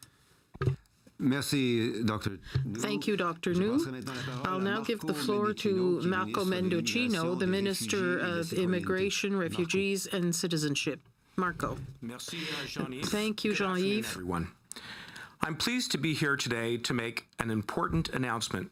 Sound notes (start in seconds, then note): 6.4 speaking French